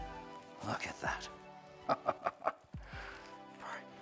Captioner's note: chuckles